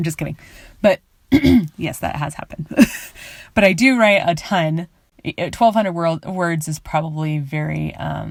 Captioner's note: laugh